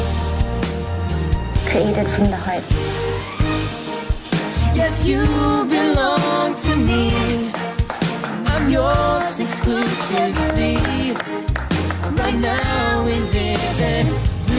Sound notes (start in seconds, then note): 3.1 theme music playing; 10.1 applause